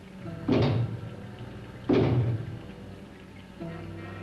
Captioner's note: two bangs on door